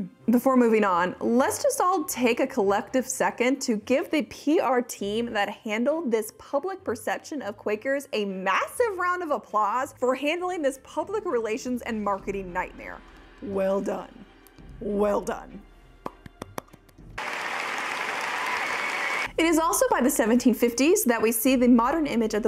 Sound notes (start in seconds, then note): 16.0 audience clapping; 17.1 claps